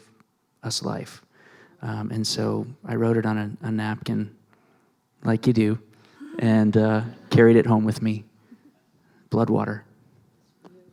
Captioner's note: laughter